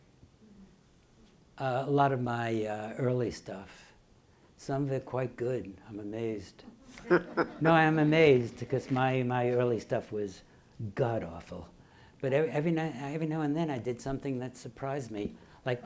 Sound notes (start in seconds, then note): 6.9 laughing